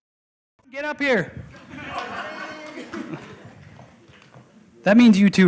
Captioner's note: laughter